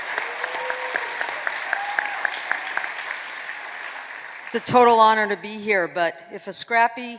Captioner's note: applause